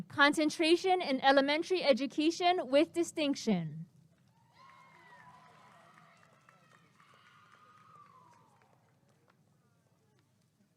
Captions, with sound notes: Concentration in Elementary Education with Distinction [applause and cheering]